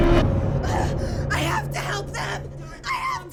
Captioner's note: Glinda screaming; gasps